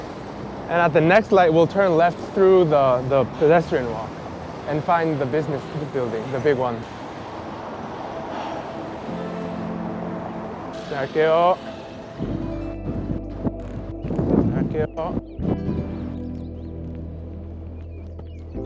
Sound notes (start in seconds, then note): 8.3 breathes; 10.8 speaking Korean: Passing; 14.2 speaking Korean: Passing